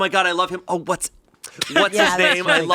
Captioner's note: laughing